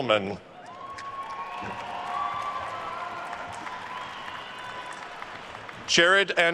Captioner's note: attendees cheering and applauding